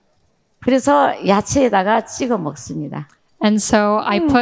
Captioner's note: speaking in foreign language